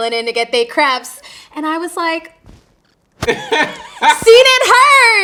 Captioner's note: interviewer laughing